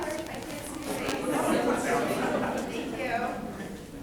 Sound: people chattering

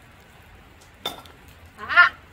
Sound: metal clinks

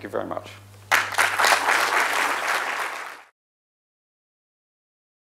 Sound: applause

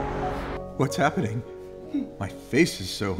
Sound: voiceover

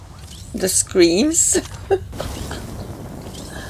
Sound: laughs

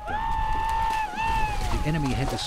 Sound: battle cries

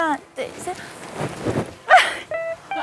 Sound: flap

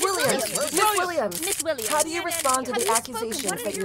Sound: flurry of cameras

